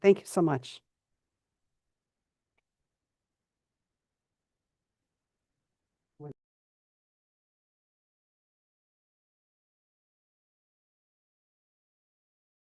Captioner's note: pause